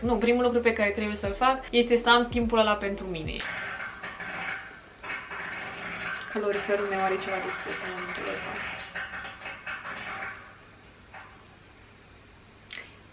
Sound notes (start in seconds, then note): 3.5 strange radiator noises